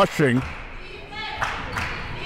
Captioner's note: claps